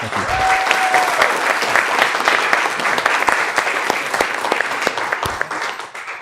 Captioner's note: applause